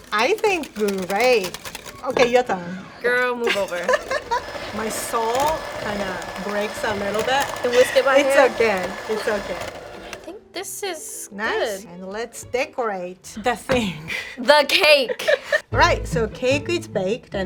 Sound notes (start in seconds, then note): 3.4 laughs; 4.1 whisk whirs